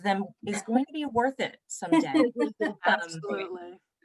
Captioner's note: laughter